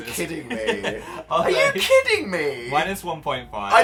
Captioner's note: Phil laughs